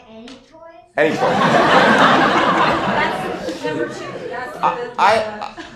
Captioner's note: laughter